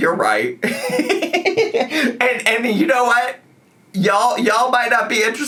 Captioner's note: laughs